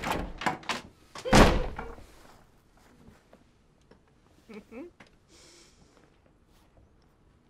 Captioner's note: door slams; Betty chuckles